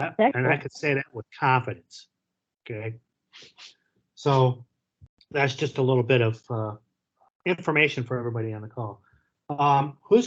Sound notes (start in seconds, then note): none